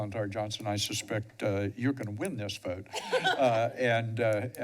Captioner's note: laughter